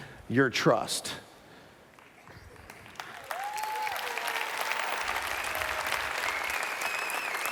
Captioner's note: applause